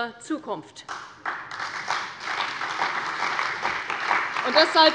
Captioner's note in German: Beifall bei der CDU und dem BÜNDNIS 90/DIE GRÜNEN